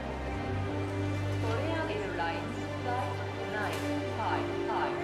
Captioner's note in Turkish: İngilizce anons yapılıyor